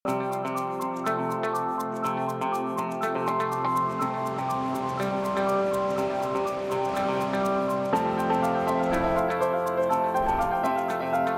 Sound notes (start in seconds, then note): 0.1 upbeat music; 4.8 water rushes in creek